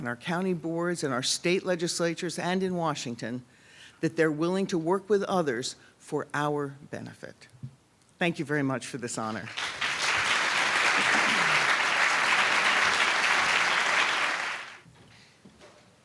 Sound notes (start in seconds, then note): 9.4 applause